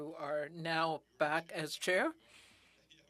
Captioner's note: speaking in french